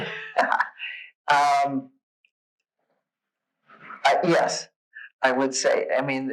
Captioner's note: laughs